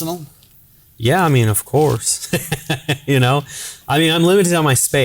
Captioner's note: laughing